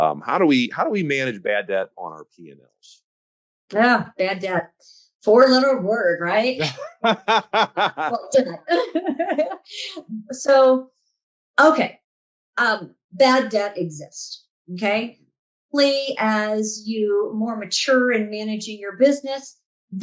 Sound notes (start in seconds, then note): 6.6 laughs